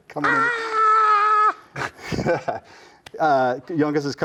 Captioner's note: screams; laughs